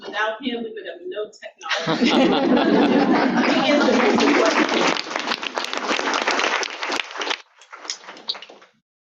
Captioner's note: audience laughter